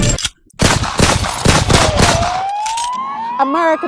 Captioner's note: gun fire